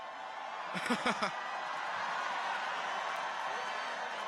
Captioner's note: chuckles